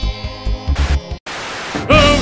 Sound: Static

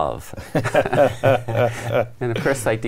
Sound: guests laugh

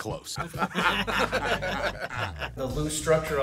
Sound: laughing

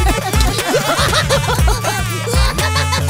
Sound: laughing joyfully; laughs hysterically

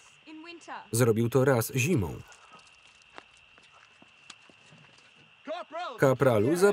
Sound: petrol splashing

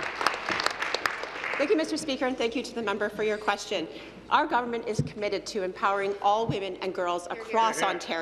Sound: applause

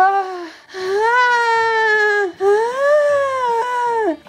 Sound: moans

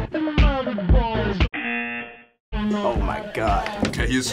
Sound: buzzer

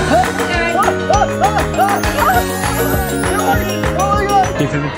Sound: shrieking about bubbles

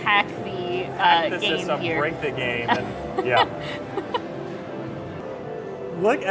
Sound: laughs

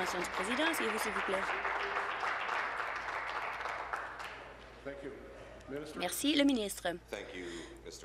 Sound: applause

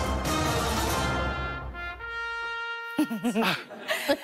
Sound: news theme plays; laughter

